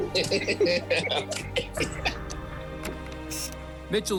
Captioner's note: laughter